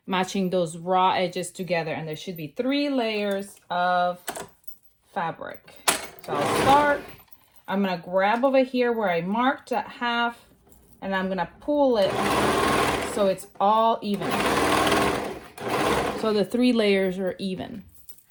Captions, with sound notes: matching those raw edges together, and there should be three layers of fabric. So I'll start. I'm gonna grab over here where I marked at half, and then I'm gonna pull it (machine whirring) so it's all even, (machine whirring) so the three layers are even.